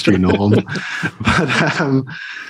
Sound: both laughing

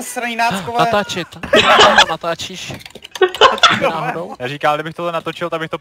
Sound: laughter

